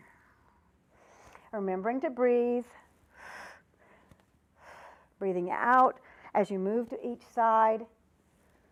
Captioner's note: breath sound